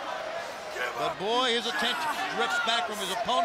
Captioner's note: crowd chatter